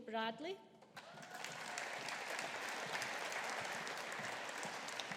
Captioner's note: audience applauding